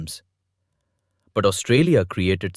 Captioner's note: thoughtful